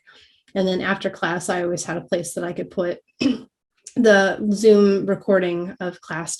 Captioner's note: cough